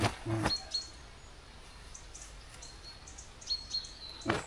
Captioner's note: beeping